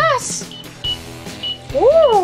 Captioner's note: timer beeps